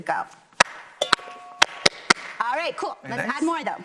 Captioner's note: clapping to the rhythm